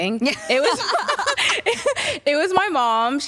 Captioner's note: laughter